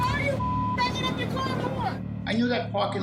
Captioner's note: beep